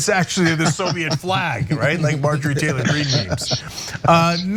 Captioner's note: laugh